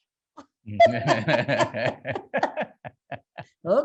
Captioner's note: laughing